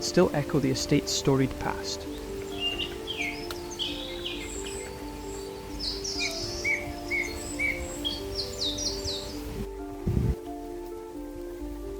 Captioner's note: birds Chirp